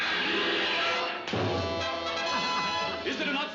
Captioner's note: boom